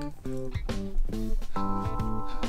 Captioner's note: lick